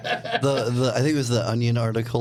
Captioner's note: laughing